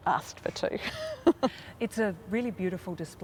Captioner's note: laughs